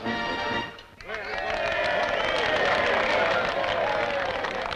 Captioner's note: cheers and applause